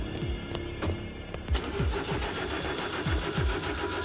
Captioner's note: engine sputtering